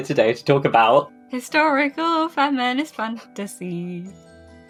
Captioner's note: sing-song